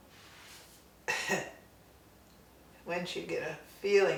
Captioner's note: coughs